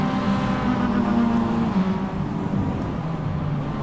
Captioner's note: signature Revving